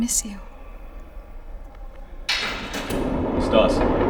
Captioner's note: door opens